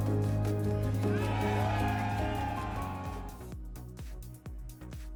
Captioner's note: cheering; upbeat music